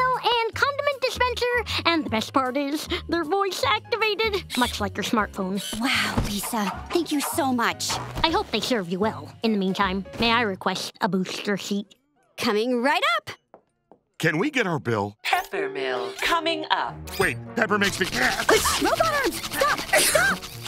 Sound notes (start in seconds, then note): 15.2 robotic voice